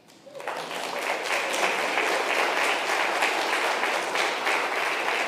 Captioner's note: congregation applauds